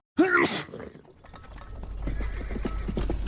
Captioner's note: sneeze; hooves approaching